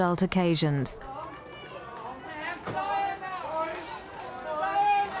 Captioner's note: crowd clamoring